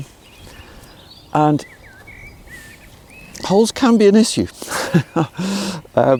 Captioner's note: laughing